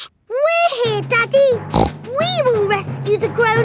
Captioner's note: snorts